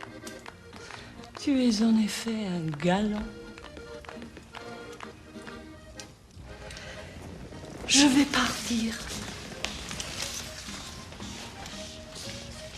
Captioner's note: speaking french